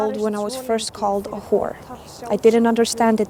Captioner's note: speaking in english